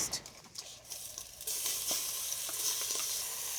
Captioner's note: sizzling